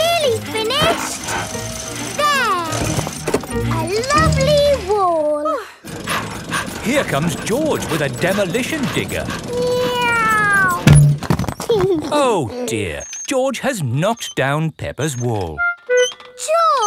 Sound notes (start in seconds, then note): 5.8 daddy pig panting; 9.7 george imitates airplane; 11.9 george giggles